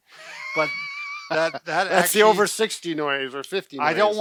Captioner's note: laughs